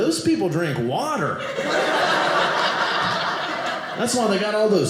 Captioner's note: audience laughing